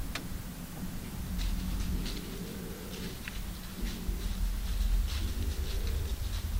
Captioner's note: rustle, rustle…